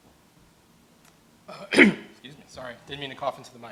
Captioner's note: clears throat